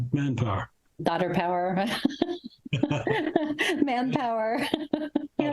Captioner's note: laughs